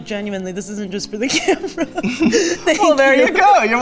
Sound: laughs

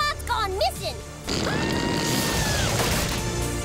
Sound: screaming

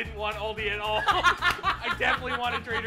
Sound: laughs

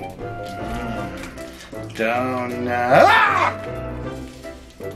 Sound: screams

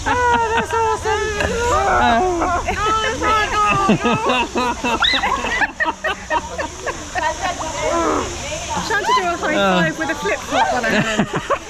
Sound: laughter

